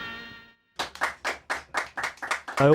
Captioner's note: applause